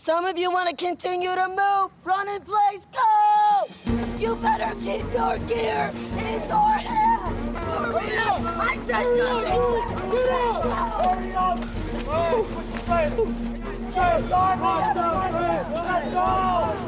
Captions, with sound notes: Some of you wanna continue to move, run in place. Go! You better keep your gear in your hands. Hurry up, I said move! (cadre yelling)